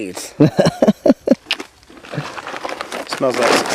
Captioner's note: laughing